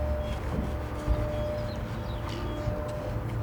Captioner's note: birds chirping